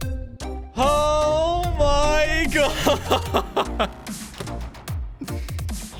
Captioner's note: laughs